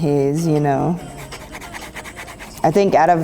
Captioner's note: pencil scratching